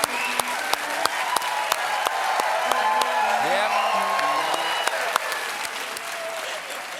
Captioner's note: cheers and applause